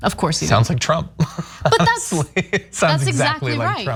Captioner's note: laugh